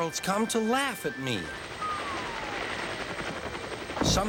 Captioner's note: helicopter propeller whirring